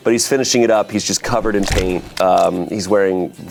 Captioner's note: paint splats